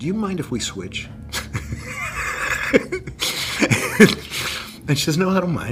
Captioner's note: laughter